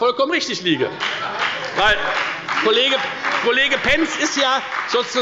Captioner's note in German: Beifall bei der FDP und bei Abgeordneten der SPD